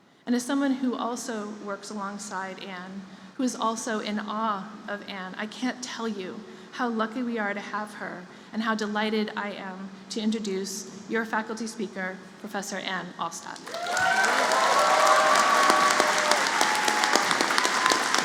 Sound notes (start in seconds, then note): 13.6 applause